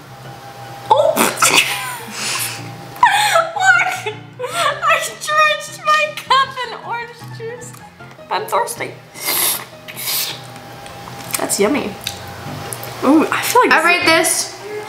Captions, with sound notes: - Oh! (snorts) What? I drenched my cup in orange juice! But I'm thirsty. (slurps) That's yummy. Ooh, I feel like-- - I rate this